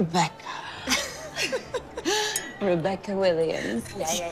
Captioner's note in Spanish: Risas